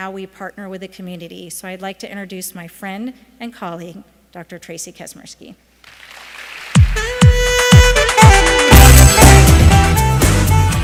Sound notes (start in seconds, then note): 5.8 applause